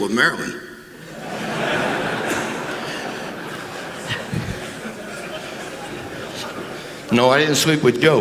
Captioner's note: laughter